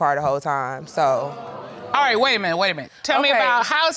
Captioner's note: crowd gasps